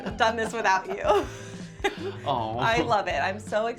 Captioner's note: both laugh